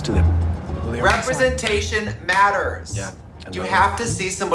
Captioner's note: clapping simultaneously